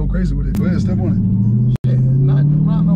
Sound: car engine revving

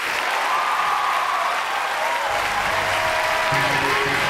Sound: audience clapping; audience cheering

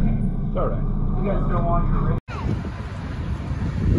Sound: elevator opens

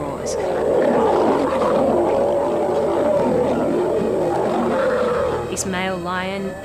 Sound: roars

